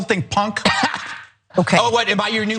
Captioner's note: laugh